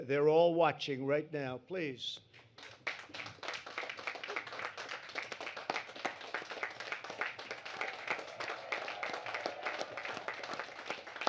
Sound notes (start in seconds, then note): 2.5 applause